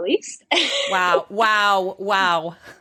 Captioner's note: chuckles